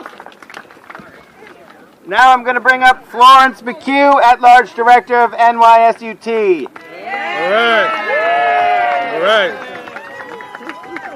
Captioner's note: cheering